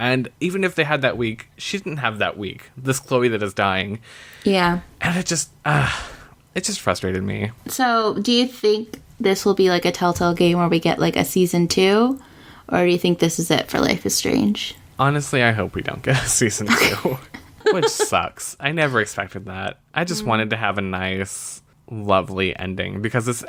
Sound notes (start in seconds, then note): 5.6 sighs